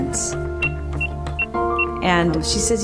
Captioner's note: cash register beeps